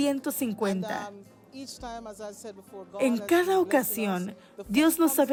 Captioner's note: Hablando idioma extranjero